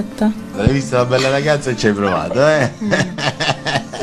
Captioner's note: laughs